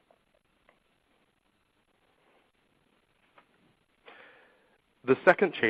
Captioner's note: silence